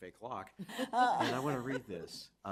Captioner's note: chuckling